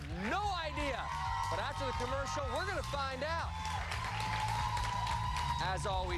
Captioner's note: cheers and applause